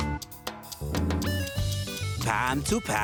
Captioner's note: timer ticking